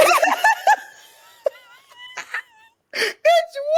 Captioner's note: laughs